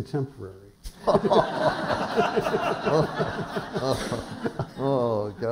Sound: laughter

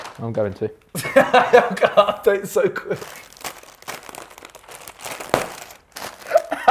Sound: laughs; Simon laughing

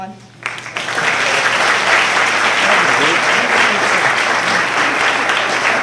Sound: applause

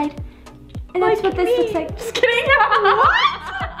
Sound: laughs

